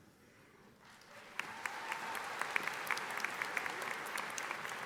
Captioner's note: audience applauding